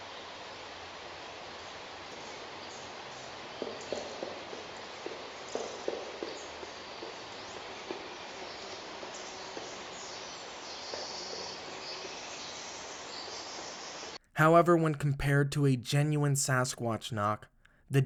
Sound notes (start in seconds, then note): 0.2 soft knocks thudding; 0.2 white noise crackling; 9.3 soft knocks thudding; 9.3 white noise crackling